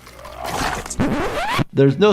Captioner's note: blood splatters